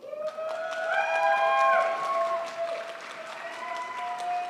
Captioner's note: crowd applauds